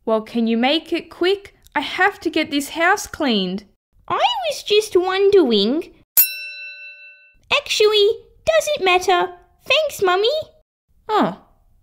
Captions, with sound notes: Well can you make it quick? I have to get this house cleaned I was just wondering... (Ding!) Actually, doesn’t matter! Thanks Mummy Oh...